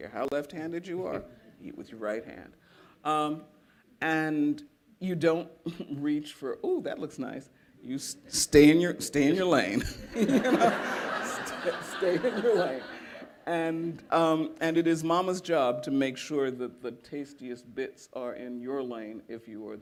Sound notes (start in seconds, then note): 9.8 laughter